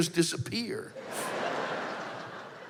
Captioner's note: laughter